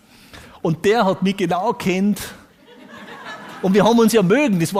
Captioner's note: audience laughs